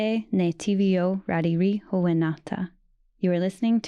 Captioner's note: speaking Indigenous language